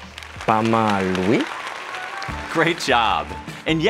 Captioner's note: crowd cheering